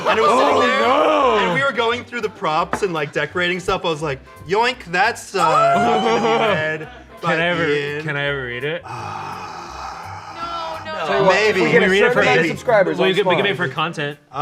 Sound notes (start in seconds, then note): 8.8 sigh